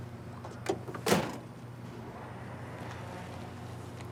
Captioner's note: door slamming